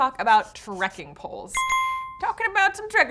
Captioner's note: bells ding